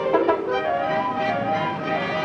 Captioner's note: exciting music; horn honks